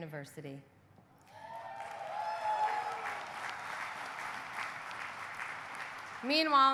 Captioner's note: audience cheering; audience applauding